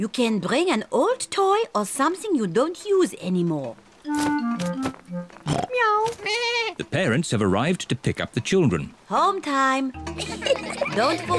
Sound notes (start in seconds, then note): 5.4 all makes animal sounds; 10.0 children giggling